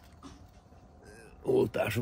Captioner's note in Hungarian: nyögés